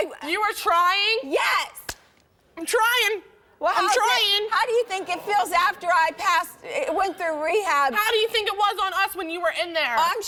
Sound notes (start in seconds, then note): none